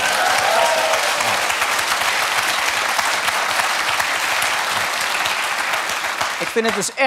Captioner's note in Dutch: gejuich en applaus